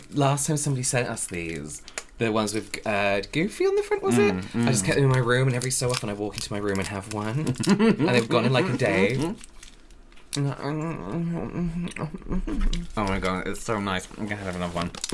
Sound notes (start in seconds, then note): 10.3 spitty Chewing Mouth